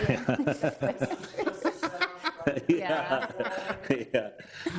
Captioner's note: laughing